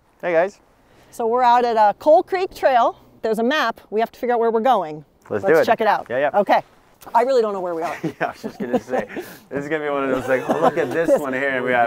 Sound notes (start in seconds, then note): 10.0 laughs